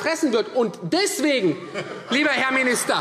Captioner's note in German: Heiterkeit SPD